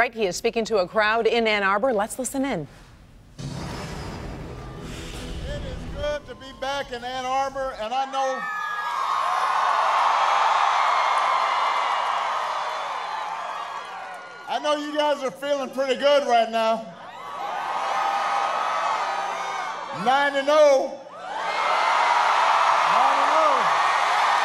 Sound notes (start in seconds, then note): 17.0 cheering and applause